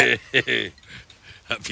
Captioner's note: laughs